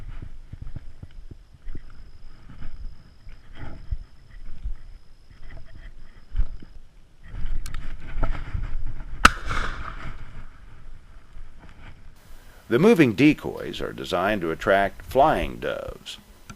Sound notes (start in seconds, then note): 0.9 bang